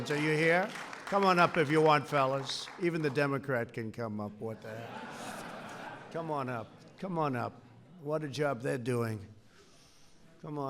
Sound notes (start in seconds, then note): 4.6 laughter